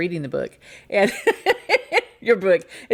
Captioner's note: laughs